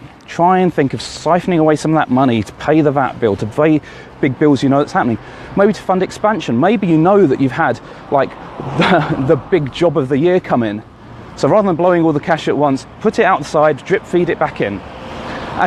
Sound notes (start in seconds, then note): 8.6 laughs